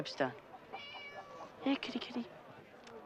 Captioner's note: cat meows